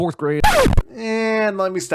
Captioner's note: record scratch